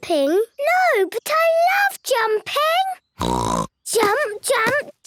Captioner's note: snort